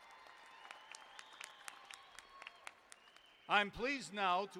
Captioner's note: applause